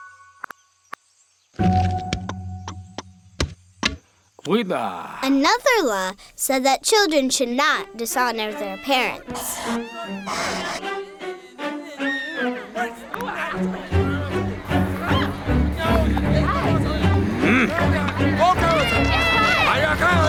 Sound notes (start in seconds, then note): 5.6 voiceover; 9.7 crowd shouting; 9.7 dramatic music